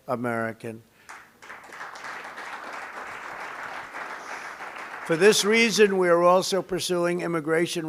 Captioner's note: applause